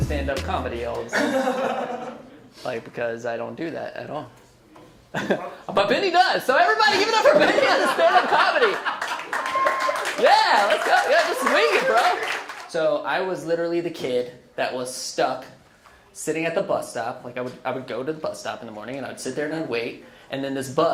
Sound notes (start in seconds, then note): 1.1 laughs; 9.2 laughs; 10.2 audience cheers and claps